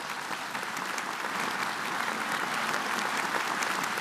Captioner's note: audience applauding